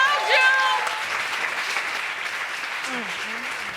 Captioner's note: crowd applauds